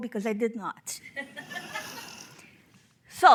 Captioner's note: audience laughing